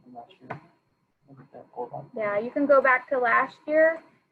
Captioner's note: faintly speaking